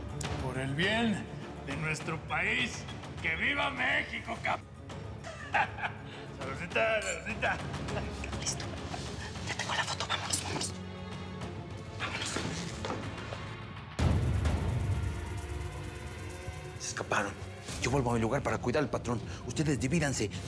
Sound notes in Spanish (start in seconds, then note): 5.2 risotada